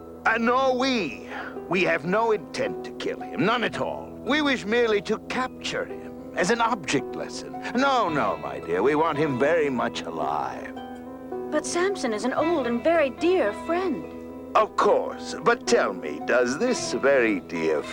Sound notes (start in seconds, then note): none